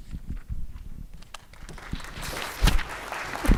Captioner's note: applause